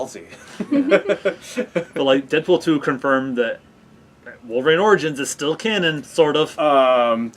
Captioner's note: laughing